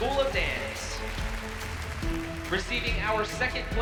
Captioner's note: applause